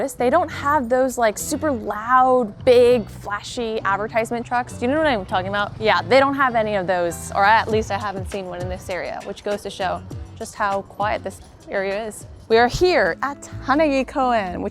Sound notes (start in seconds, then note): none